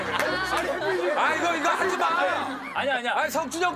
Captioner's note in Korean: 웃음 소리